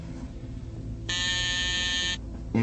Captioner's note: buzzer buzzes